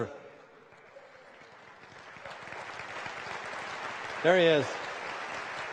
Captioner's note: applause